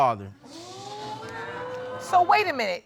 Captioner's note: audience exclaiming